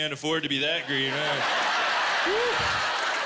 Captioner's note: laughter